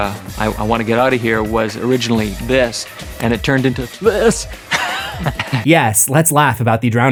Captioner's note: laughs